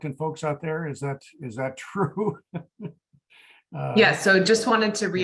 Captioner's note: laughing